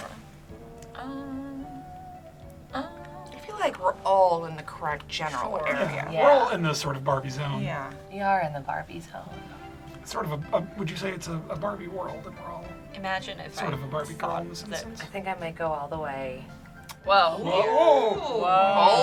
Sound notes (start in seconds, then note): 17.4 group gasps